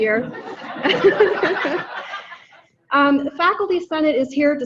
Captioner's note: audience laughing